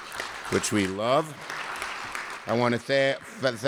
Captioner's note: applause